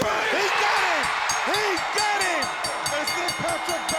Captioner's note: crowd cheering